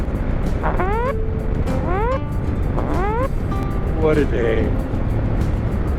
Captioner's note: klaxon sounds